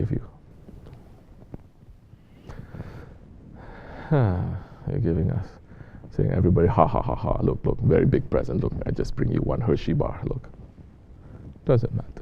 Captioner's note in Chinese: 开始笑了